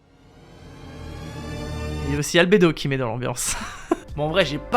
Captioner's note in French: Rire